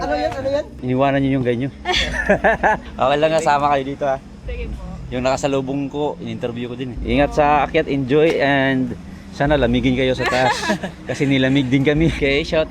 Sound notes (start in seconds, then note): 1.8 laughs